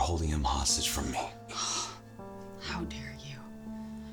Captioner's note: sighs